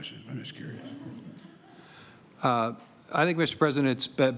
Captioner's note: laughter